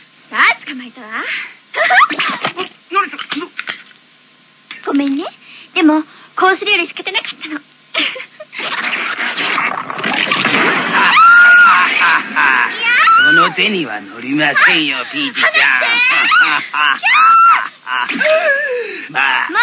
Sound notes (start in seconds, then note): 10.8 crazy Laughing; 10.9 screaming; 15.8 shrieking